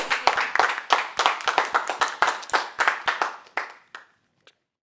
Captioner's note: applauding